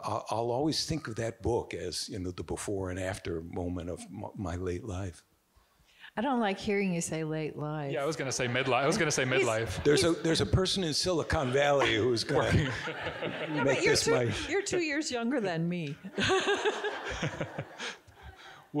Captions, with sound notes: I'll always think of that book the before and after moment of my late life. - I don't like hearing you say late life. - Yeah, I was gonna say midlife, I was gonna say midlife. - There's a person in Silicon Valley who's going. (audience giggling) - You're two years younger than me. (all giggling)